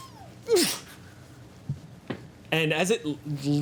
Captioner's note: grunts